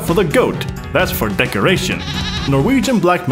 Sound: goat bleats

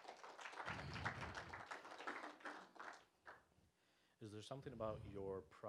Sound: applause

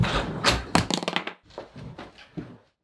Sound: clamp hits floor

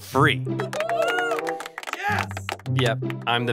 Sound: crow cheering loudly

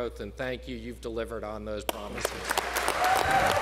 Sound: applause

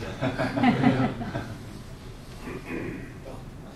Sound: audience laughter

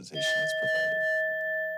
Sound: timer dings

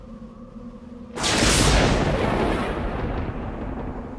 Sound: lightning and thunder

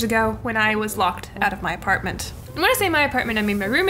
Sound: electronic fizzles

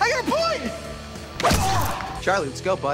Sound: pained grunt

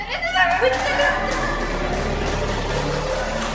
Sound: rushing footsteps

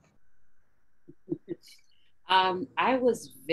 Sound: laughs

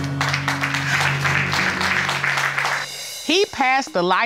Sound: audience applauding

